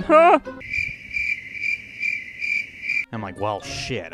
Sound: silence, crickets chirping

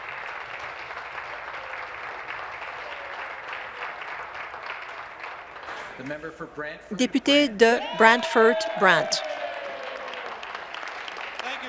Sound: applause

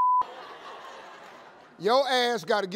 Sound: crowd laughing

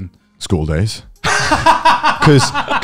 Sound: laughing loudly

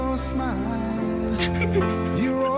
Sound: feigned sobbing

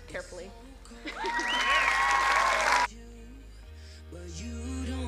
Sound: crowd cheering

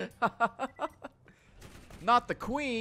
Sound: laughs

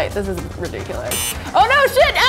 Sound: beep

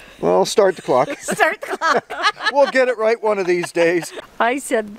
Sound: laughing

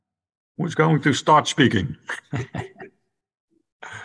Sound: laughs

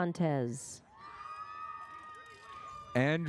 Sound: audience cheers

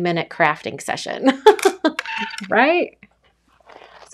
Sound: laughing

